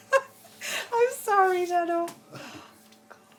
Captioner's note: laughing